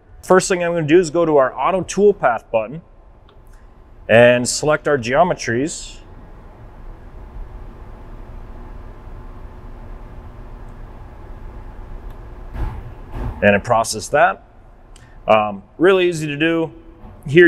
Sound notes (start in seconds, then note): 6.0 background loading sound; 12.5 smash from a machine engine sound